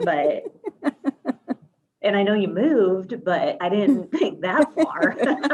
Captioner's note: laughs